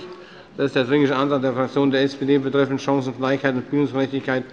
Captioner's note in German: none